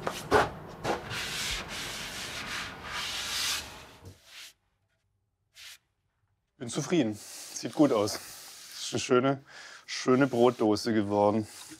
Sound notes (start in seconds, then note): 1.4 scratching noise